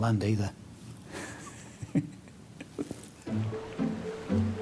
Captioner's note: chuckles; uptempo music